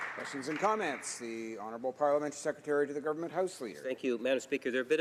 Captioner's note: some Applause